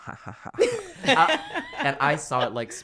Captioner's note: laughing